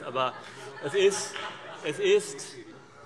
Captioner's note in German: Heiterkeit